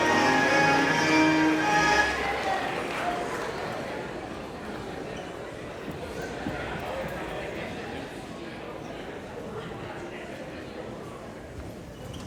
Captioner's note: applause